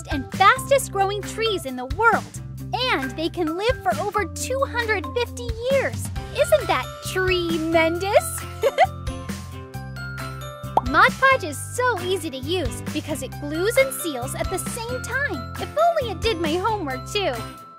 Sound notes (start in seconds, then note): 8.3 laughs